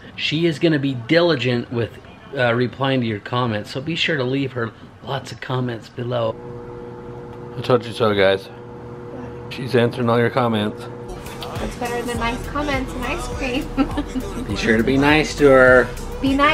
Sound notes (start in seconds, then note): 13.3 laughs